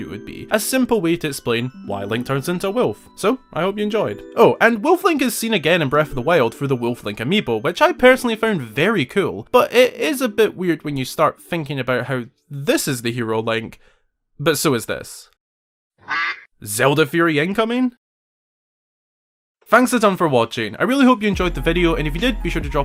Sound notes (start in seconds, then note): 16.0 quack